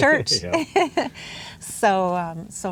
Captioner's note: laughs